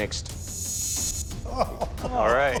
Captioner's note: laughs